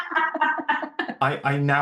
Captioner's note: laughter